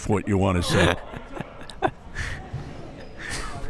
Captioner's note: laughs